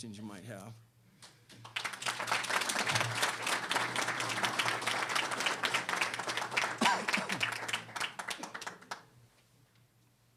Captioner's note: applause